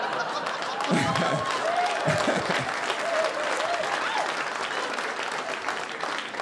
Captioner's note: audience laughing; audience applauding